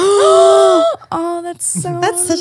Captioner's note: gasp